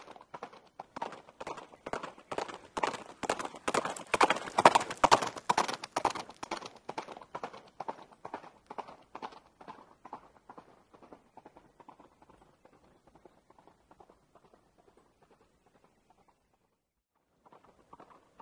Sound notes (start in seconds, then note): 4.5 Strawberry galloping